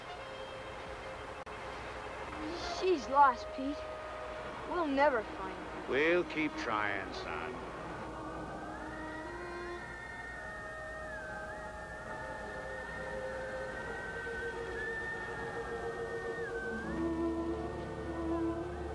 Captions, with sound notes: She's lost, Pete, we'll never find her. We'll keep trying, son. (wind howling) (whistling)